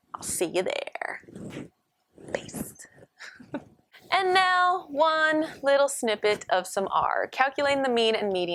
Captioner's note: laughter